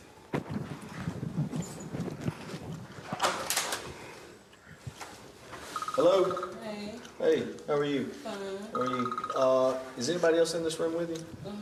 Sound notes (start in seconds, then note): 3.2 door clicking